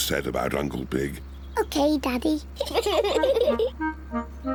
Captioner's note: both giggle; honks horn